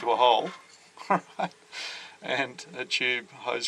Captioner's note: laughs